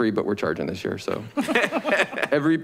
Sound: board members laugh

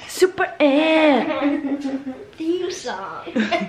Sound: kids laugh

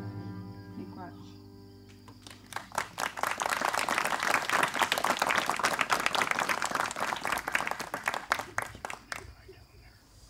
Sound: applause

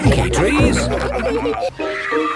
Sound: all laughing

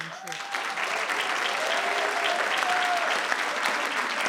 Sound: audience clapping

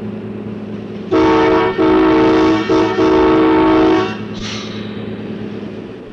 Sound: train horn sounding; sound of the train moving

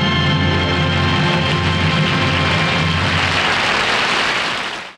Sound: audience applauding

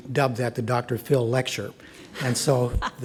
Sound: audience laughs

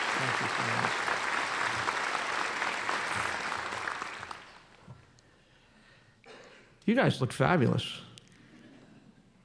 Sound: applause

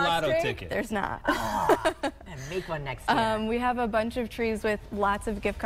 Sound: laughter

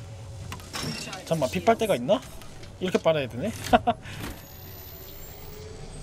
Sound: laughs

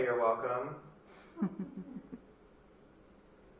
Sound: giggling

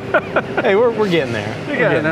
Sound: both laugh

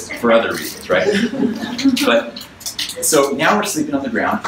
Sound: audience laughs

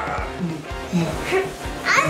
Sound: humming

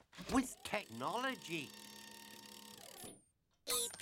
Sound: whirring

